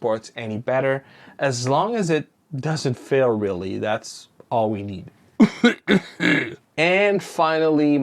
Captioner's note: cough cough